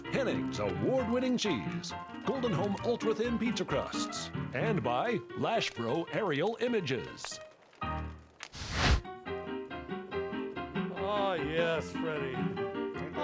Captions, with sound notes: Henning's Award Winning Cheese, Golden Home Ultra Thin Pizza Crusts, and by Lashbro Aerial Images. (flames crackling) (jaunty piano music) - Aw yes Freddy.